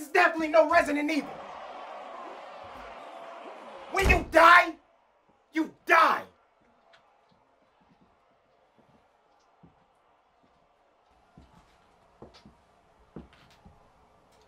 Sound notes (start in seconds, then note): 2.0 zombie hodgepodge clamoring